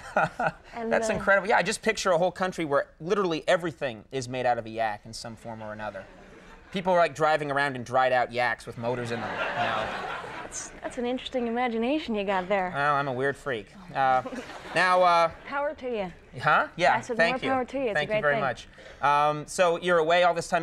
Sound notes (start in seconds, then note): 0.0 laughing; 9.0 audience chuckles